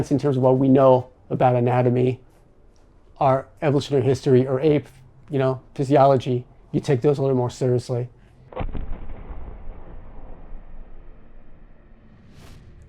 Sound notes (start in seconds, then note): 8.5 thunderous booming